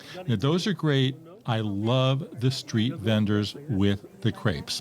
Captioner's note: people conversing